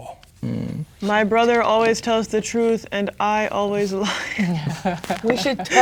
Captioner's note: laughing